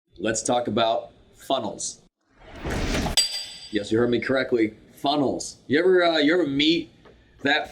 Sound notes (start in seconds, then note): 2.3 whooshing; 3.1 metal clanks